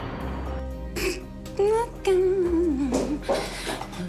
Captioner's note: snorts, hums happily